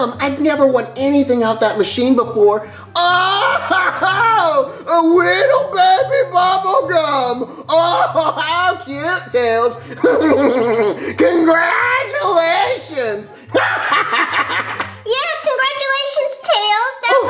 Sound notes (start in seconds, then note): 9.7 laughs; 13.4 menacing laughs